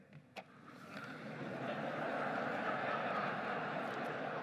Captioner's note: laughing